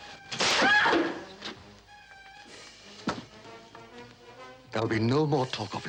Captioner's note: whip cracks; Angela yelps